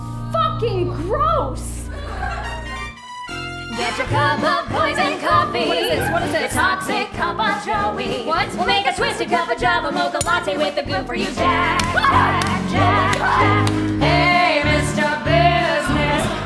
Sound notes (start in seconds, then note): 3.9 singing; 6.0 speaking; 7.9 speaking